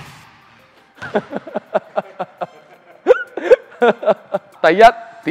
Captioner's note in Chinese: 無情嘲笑